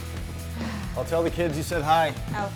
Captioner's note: sighs